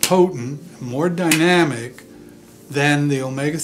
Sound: slaps fist on palm of hand

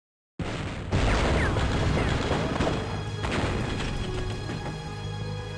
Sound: explosions, gunfire

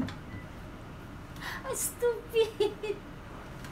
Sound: giggled

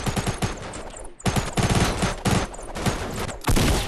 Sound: shooting of the gun

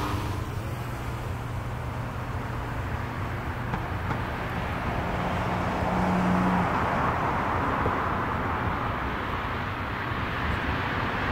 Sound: cars rev

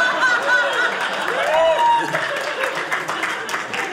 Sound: audience applauding

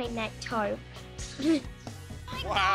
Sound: giggles

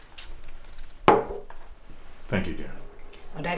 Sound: glass bangs on table

